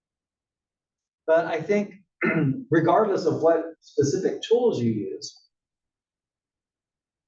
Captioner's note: cough